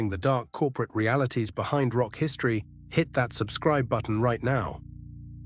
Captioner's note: SFX: subtle bell chime